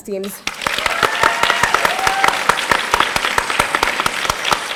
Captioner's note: audience applauding